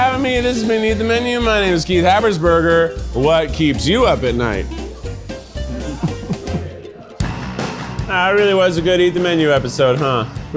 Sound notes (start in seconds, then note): 5.6 laughs; 5.6 producers laugh